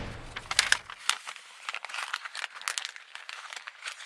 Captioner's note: paper rustling